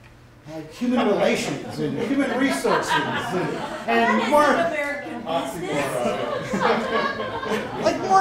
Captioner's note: laughter